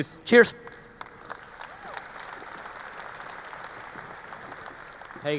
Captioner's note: audience applauding